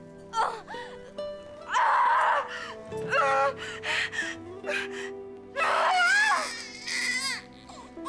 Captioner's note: screaming; baby cries